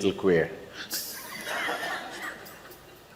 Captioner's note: laughter